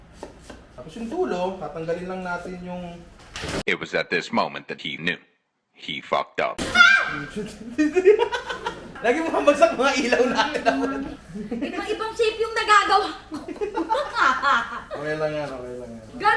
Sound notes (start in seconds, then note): 6.6 screams; 7.3 laughs